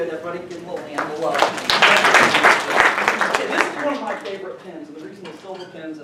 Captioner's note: applause